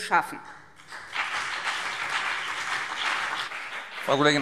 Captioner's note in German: Beifall BÜNDNIS 90/DIE GRÜNEN und vereinzelt CDU